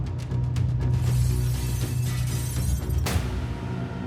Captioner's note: glass shattering; tense music